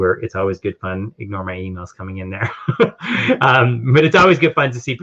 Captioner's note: laughing